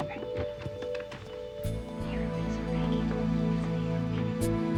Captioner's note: boys whisper